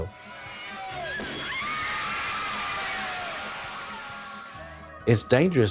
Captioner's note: crowd cheers wildly; Water bottle pops